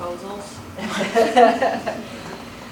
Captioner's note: laughter